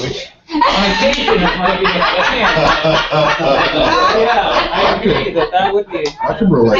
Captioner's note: laugh